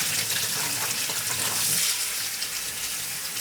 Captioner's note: running water